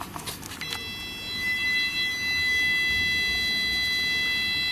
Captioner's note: machine beeping